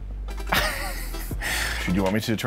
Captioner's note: laughs in shock